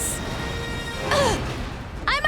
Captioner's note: grunting